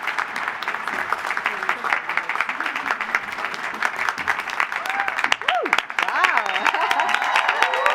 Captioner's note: applause